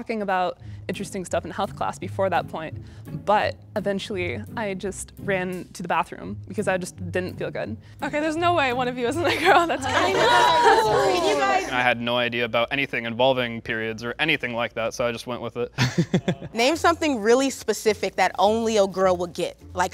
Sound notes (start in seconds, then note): 9.2 all laugh and agree; 15.8 laughs